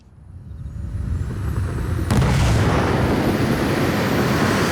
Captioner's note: roaring engine